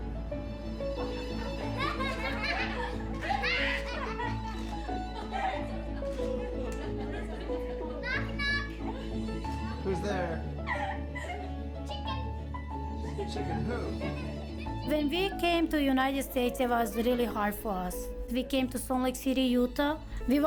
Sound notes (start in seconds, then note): 1.9 kids laughing